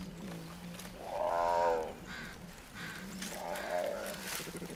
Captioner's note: bear growls lightly